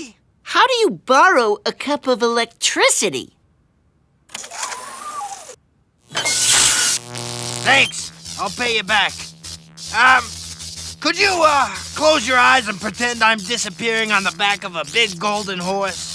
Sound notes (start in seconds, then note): 6.3 electricity crackling